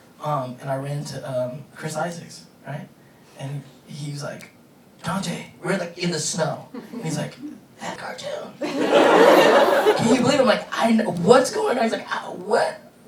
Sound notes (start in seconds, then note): 8.6 audience laughing